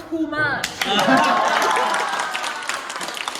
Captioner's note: exclaims and applause